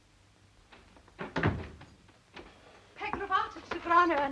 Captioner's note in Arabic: يغلق الباب